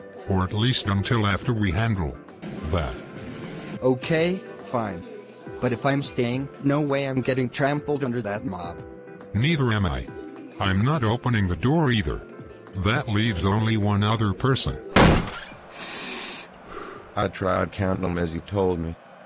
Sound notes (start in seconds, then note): 2.6 even more irrational crowd noises; 14.9 bang; 15.8 panting